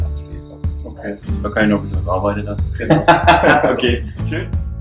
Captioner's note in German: lacht